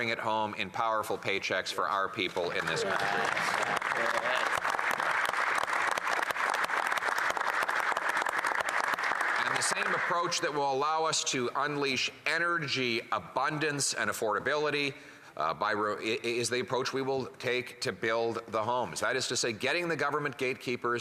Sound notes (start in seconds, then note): 10.3 some Applause